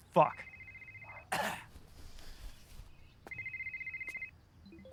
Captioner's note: cell phone ringing